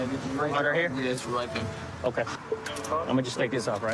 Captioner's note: handcuff click